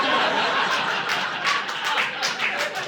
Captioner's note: audience laughing